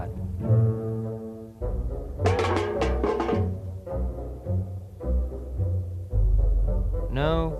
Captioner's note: mysterious music; can clanks